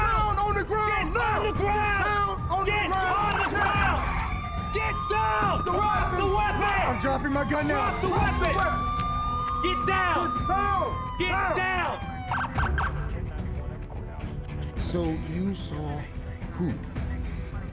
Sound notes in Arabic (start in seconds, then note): 8.6 صافرات إنذار الشرطة; 11.6 عويل صفارات الشرطة